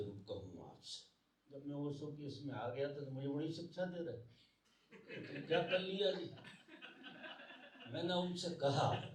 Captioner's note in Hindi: हंसी